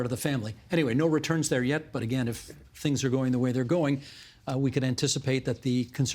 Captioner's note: none